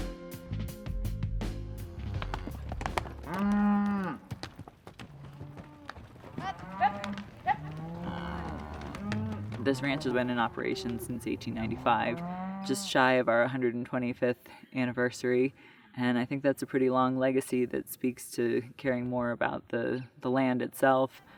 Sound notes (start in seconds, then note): 1.8 horse trotting; 3.0 cow moo's